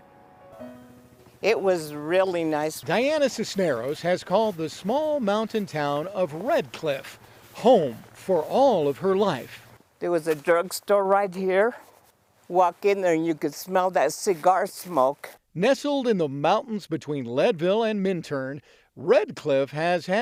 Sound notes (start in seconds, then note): 5.0 feet shuffling; 14.9 feet shuffling